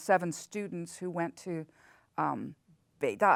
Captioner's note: speaks in foreign language